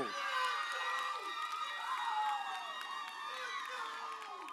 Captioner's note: audience cheers